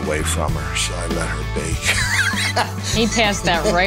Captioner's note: laughs